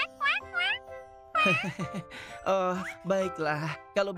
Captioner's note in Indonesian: terkekeh